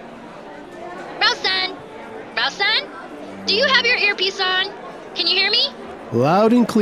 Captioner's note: through earpiece